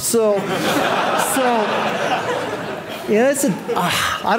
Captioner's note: audience laughing